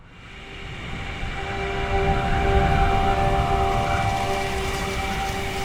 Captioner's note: dissonant whoosh